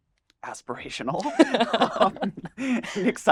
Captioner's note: both laugh